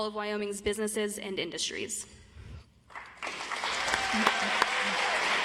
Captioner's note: audience applauds